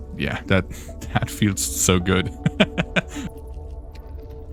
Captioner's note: giggles